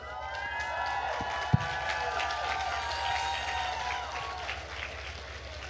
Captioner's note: attendees cheering and applauding